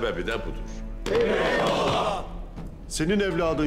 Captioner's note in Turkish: Hep bir ağızdan